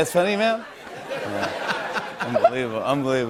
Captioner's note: laughter